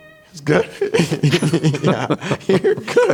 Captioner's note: laughing